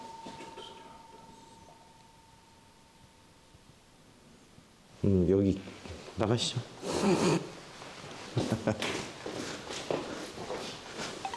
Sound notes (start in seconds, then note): 6.8 콧물 석션 소리; 8.4 laughing